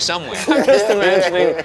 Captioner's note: laughing